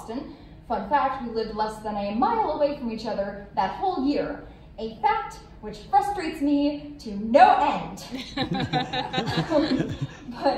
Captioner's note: laughter